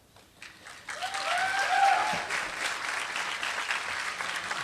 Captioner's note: applause